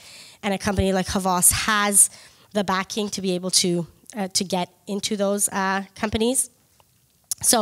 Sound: none

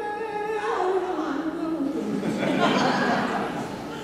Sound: laughter

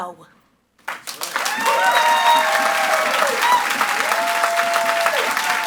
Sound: audience applauds and cheers

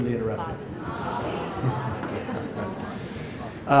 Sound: audience calls out "Bobby"

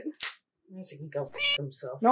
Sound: meow

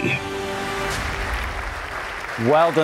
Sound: audience applauding

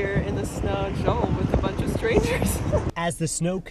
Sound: laughs

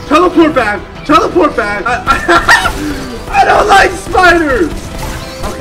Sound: laughing

